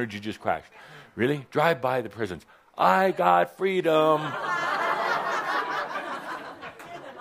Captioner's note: laughter